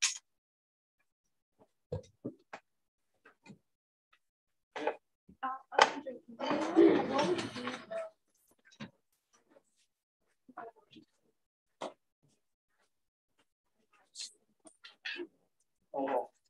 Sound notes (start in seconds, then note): 6.3 background chatter